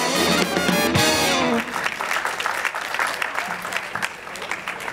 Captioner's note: applause